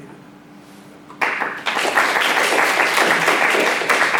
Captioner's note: applause